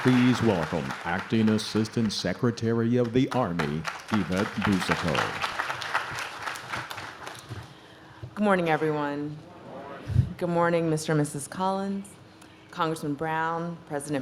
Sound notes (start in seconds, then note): 5.6 audience claps